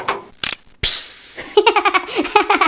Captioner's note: click; click hiss